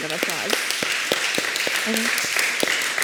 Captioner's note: applause